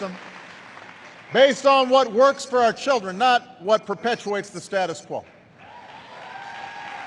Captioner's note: applause